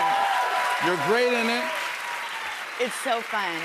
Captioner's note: cheers and applause